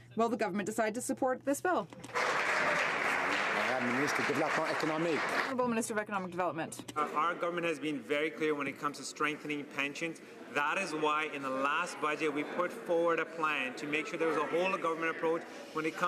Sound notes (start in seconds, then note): 5.4 some Applause